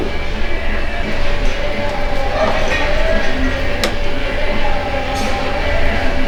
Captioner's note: metal Clanking